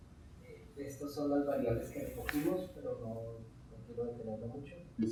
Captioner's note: speaking in Spanish